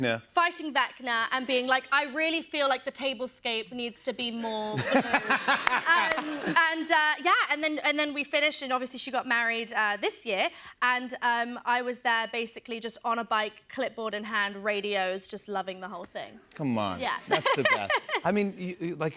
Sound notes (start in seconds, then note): 4.7 laughter